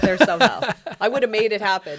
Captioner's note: laughs